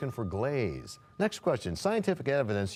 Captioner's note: bell rings, time expires